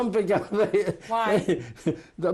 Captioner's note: laughs